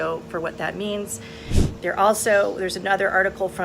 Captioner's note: air whooshes